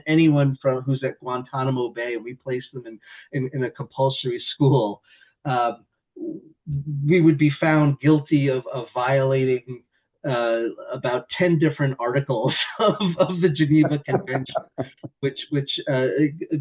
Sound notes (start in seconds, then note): 15.2 laughs